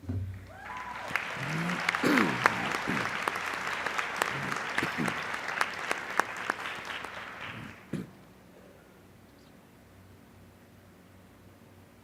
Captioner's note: applause